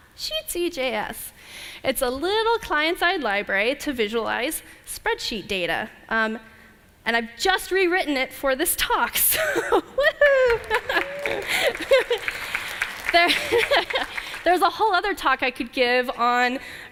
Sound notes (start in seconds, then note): 9.3 laughter